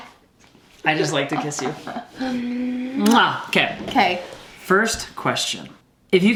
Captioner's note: lips smack